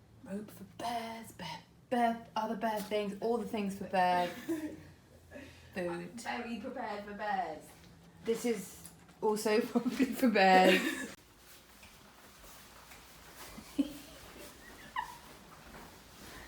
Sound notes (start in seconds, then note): 10.6 laughing